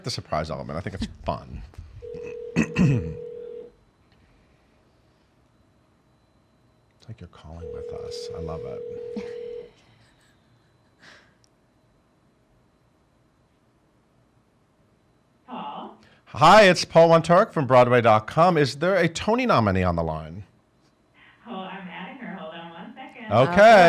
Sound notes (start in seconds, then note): 4.3 phone ringing